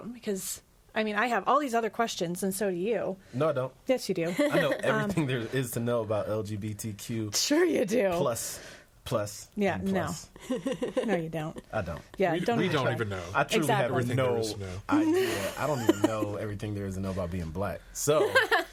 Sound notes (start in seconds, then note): 10.3 laughs; 18.2 all laughing